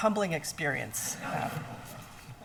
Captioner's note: laughing